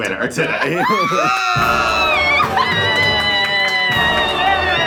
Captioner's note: screaming excitedly